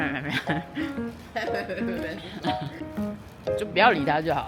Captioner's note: haha